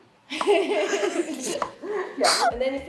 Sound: both chuckles

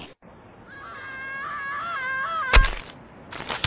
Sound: screaming from distance

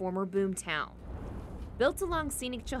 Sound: wind blowing

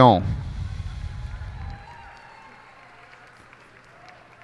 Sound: cheers and applause

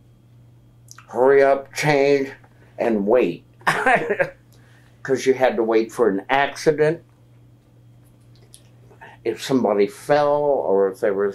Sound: laughs

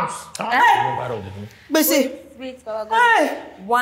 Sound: all exclaims

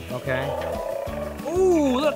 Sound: toy dinosaur growling

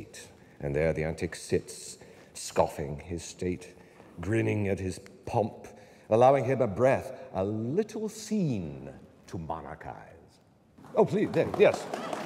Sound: applause

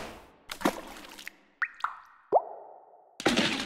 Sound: splash; dripping; splash

